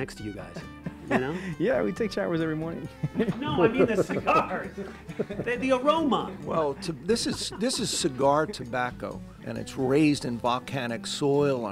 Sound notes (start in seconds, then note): 2.9 chuckles; 2.9 laughing